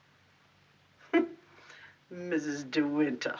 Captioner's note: scoffs